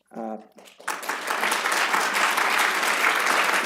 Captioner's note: applause